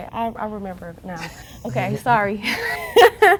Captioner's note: chuckles; laughs